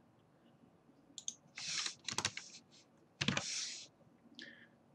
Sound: mouse clicking

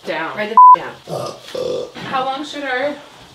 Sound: burps

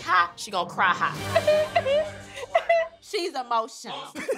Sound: cries

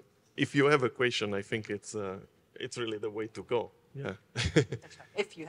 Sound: laughs

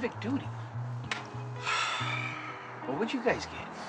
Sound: sighs

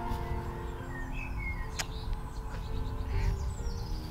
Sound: kiss

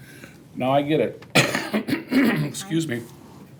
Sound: coughs

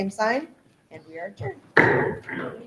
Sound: gavel bangs loudly

